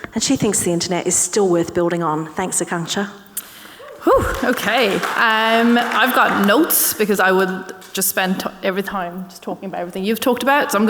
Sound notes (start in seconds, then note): 5.9 audience clapping